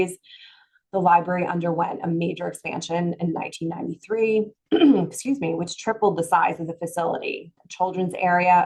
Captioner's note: throat clearing